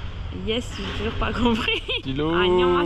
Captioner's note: laughter